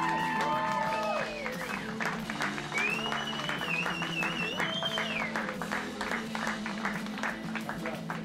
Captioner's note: cheering